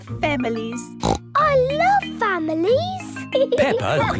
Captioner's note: snorts